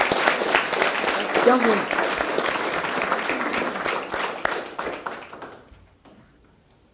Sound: applause

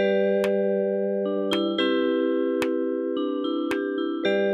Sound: none

